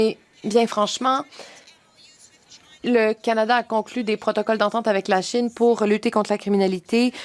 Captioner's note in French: voix de l'interprète